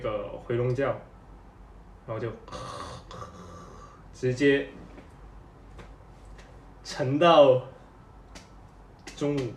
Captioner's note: snORE